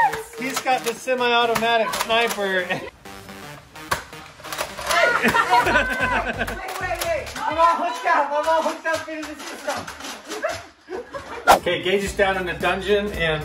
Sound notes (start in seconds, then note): 4.7 gun clicking; 5.0 laughing